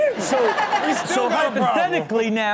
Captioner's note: audience laughs